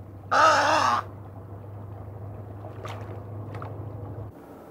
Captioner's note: bird squawks